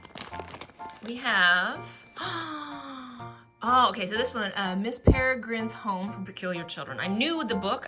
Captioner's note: gasps